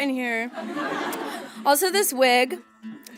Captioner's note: audience laughs